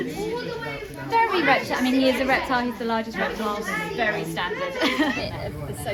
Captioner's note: laughs